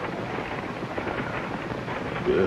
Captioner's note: sighs